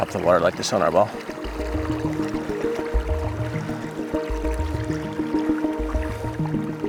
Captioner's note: water lapping gently; suspenseful music continues